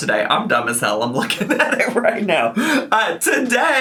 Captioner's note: laughs